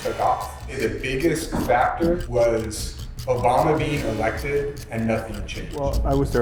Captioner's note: voiceover